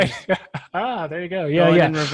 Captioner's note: laughs